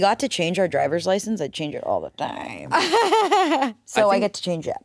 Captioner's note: laughs